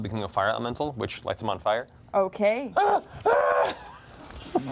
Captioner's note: screams